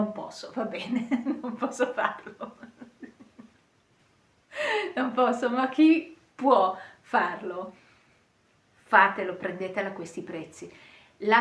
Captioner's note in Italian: risate